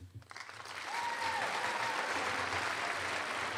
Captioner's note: applause